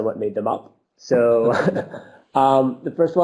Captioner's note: laughs